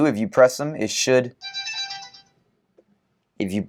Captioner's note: chime